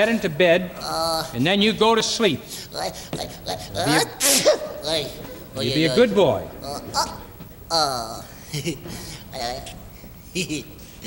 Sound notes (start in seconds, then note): 2.6 gigio sneezing; 7.7 gigio giggling